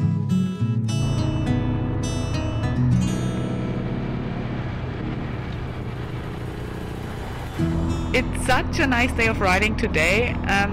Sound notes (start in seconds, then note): 2.7 motorbike roaring